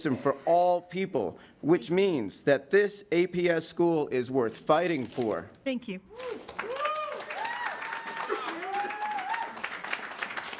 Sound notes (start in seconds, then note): 6.2 attendees cheering